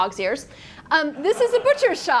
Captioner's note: students laugh